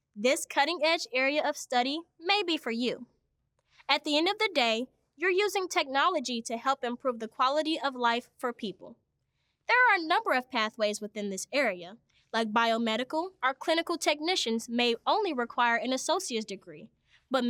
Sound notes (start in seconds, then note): none